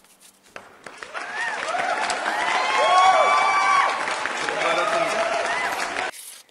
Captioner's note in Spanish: aplausos